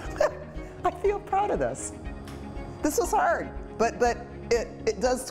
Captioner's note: laughing